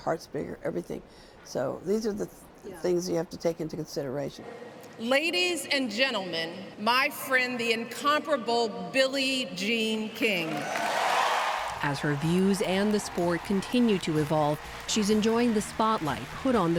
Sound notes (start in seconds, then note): 10.4 cheering and applause